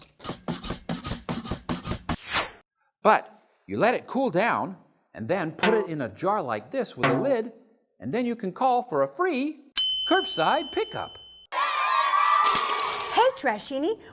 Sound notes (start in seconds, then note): 0.1 squishy sounds; 2.1 woosh!; 9.8 ping!; 11.5 cheering!